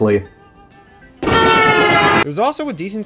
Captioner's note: train noises